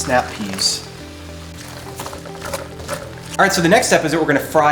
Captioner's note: food sizzles